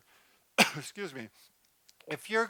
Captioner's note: coughs